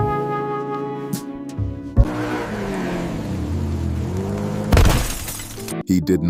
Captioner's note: car revving; glass shattering; gentle music